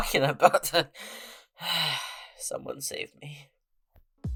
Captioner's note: sigh